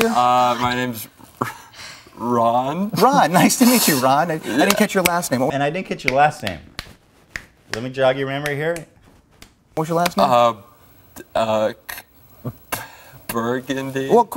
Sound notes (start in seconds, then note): 5.3 snap!; 6.0 continuous snaps; 6.4 snap! snap!snap! snap! snap!